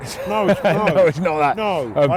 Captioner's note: laughing